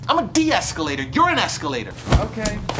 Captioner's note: objects hitting Mike